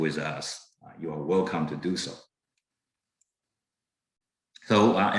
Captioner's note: mouse clicking